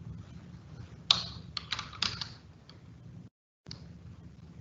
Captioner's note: typing